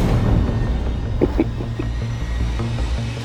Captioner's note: chuckles